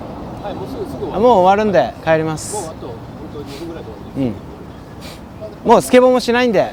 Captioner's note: speaking in foreign language